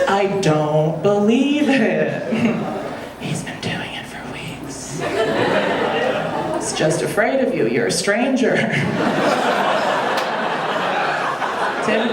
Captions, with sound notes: I don't believe it. (whispers) He's been doing it for weeks. (audience laughing) He was just afraid of you, you're a stranger. (audience laughing)